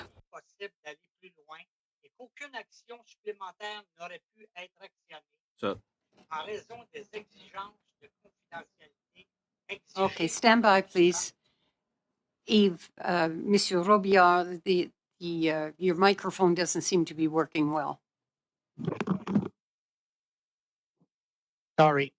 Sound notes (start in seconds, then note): 5.9 speaking French